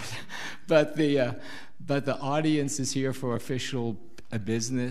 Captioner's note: chuckling